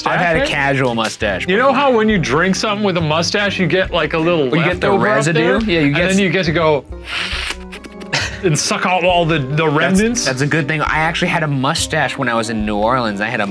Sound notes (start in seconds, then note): 7.0 slurping